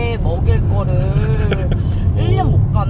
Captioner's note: soft chuckle